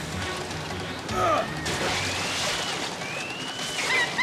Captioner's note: Tarzan grunts